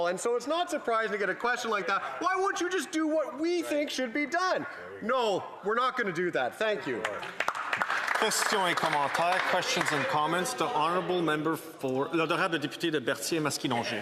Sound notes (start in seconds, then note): 10.8 some Applause